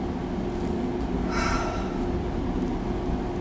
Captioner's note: sighing